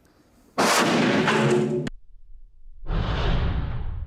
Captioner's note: loud explosion; slow explosion